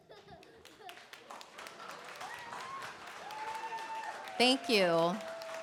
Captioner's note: cheering, applause